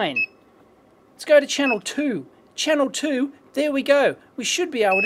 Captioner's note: beeps